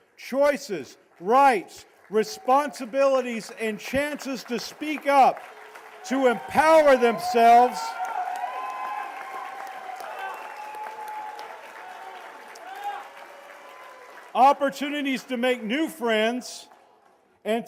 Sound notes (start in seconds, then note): 8.2 cheers and applause